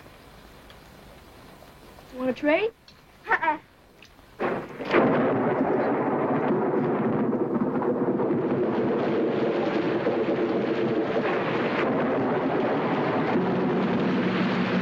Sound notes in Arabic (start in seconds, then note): 1.9 تصفيق الرعد